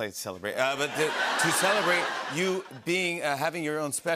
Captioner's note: laughter